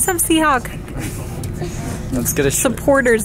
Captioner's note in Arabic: يضحك